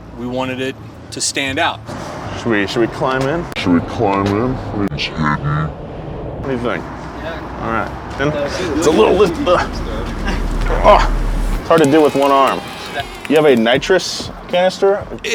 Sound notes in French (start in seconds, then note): 4.5 voix déformée; 9.8 grognement; 11.6 les enfants applaudissent